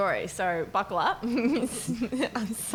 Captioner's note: chuckles